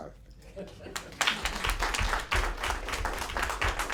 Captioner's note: applause